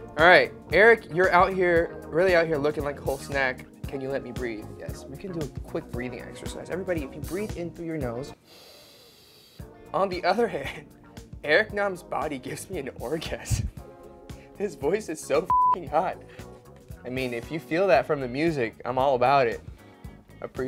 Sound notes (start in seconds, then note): 8.4 inhales sharply; 15.4 beep